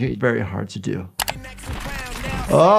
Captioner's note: key clacks; funky songs plays; gunshots firing